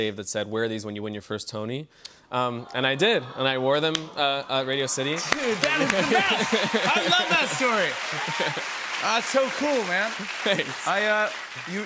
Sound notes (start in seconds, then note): 2.4 audience aws; 4.9 cheers and applause